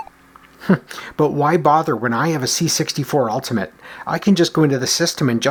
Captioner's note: chuckles